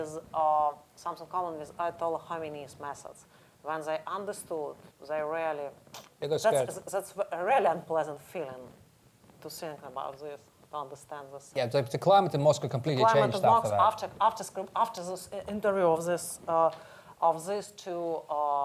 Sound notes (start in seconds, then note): 5.2 smacks lips